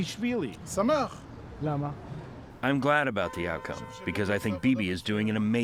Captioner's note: through translator